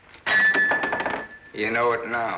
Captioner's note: crash